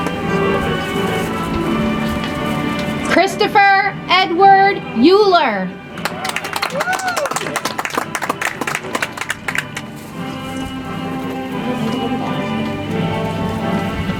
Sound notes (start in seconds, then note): 5.9 audience applauds; 9.8 soft music